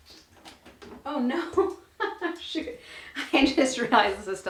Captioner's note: laughs